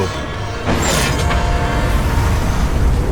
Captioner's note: meta clunking